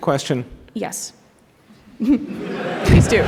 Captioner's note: laughter